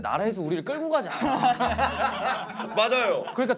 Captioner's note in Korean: 꺄르륵